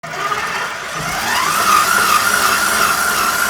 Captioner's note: mixer whirring